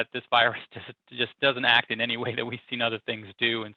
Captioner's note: laughs